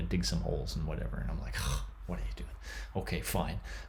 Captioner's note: scoffs